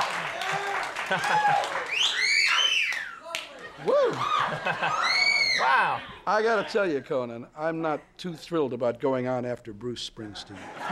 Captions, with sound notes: (very loud whistling) Woo! Wow. I got to tell you Conan, I'm not too thrilled about going on after Bruce Springsteen.